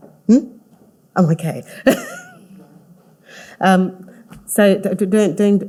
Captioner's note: laughing